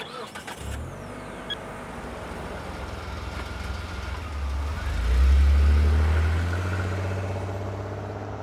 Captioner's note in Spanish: Sonido al arrancar la camioneta